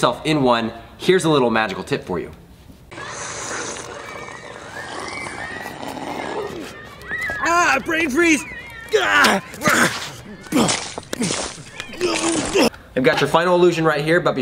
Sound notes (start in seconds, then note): 2.9 slurping noises; 7.3 yelling; 10.5 ice clattering on road